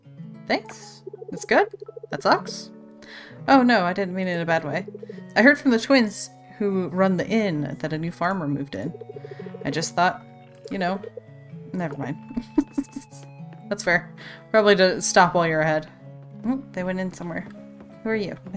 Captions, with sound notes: Thanks? That's good? That sucks? Oh no, I didn't mean it in a bad way! I heard from the twins who run the Inn that a new farmer moved in. I just thought you know... Never mind. *Laughs* that's fair, probably best to stop while you're ahead. Oh they went in somewhere. Who are you?